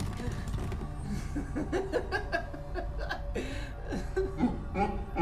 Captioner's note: Donovan giggling; demonic laughter